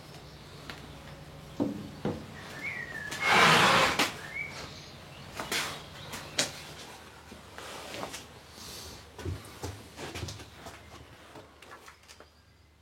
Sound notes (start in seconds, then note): 3.0 grinding sounds